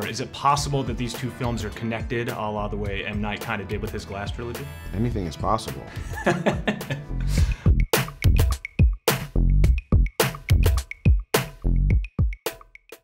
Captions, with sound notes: is it possible that these two films are connected, a la the way M. Night kind of did with his Glass trilogy? - Anything is possible. (laughing) (upbeat music)